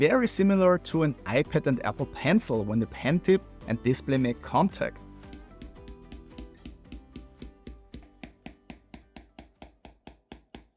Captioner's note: pen tapping